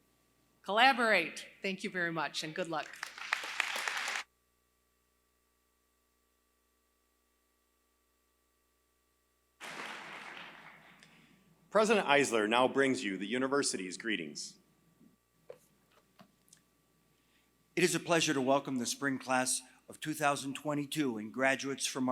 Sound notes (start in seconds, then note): 2.7 applause